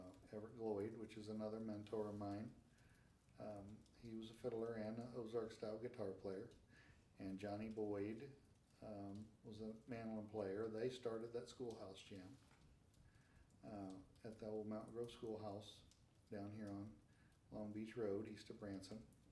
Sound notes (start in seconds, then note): none